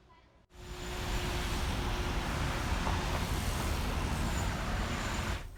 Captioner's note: car noises